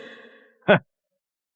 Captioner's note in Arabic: يضحك ساخرًا